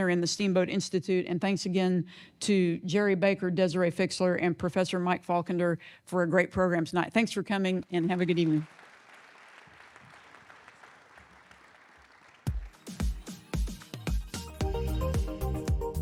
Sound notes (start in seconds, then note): 8.0 audience clapping; 12.4 lively music